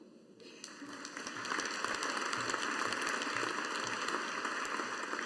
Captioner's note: audience applauding